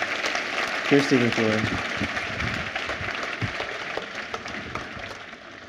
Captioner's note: applause